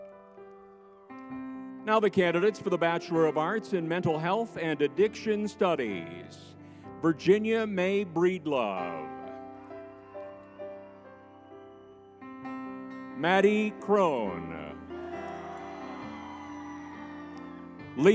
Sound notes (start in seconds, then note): 0.1 spirited music; 0.6 crowd cheering; 9.2 crowd cheering; 10.3 spirited music; 14.1 crowd cheering; 15.4 spirited music